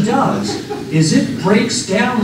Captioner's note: laughter